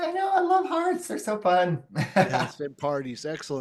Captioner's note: laughs